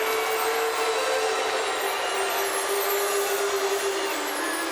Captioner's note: peaceful music; audience cheers